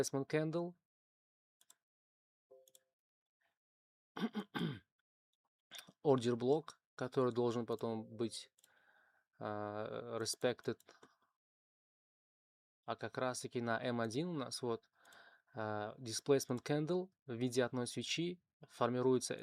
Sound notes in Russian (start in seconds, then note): 4.2 кашель; 4.2 откашливается